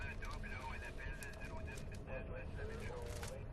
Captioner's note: poIice radio